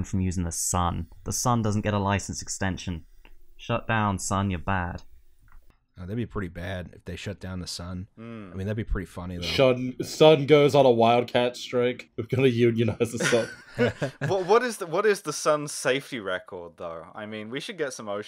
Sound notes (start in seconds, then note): 13.1 laughter